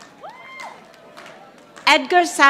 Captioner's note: audience applauding